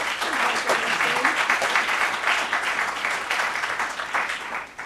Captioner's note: applause